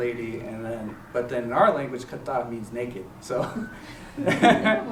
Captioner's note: non-english; chuckles